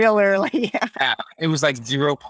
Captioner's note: laughs